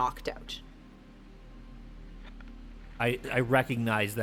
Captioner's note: static